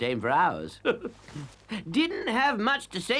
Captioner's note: Toad chuckles